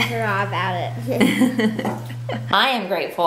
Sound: laughs

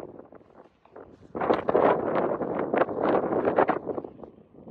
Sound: heavy gusts of wind

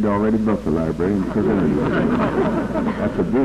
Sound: laughter

